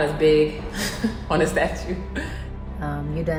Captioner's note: laughs